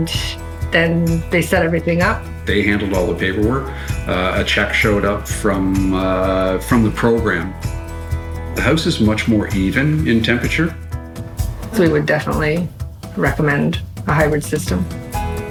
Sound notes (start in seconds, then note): 2.6 pat